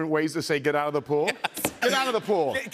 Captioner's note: laughing